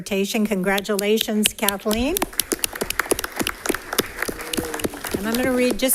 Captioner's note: crowd clapping